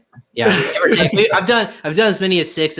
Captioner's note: laughs